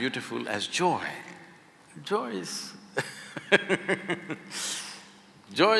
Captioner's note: laughs